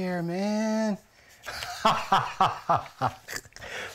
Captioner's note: laughing